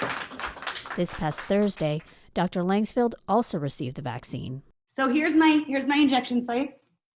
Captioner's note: applause